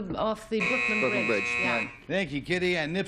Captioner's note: buzzer